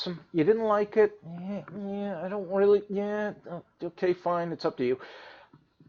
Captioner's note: hems and haws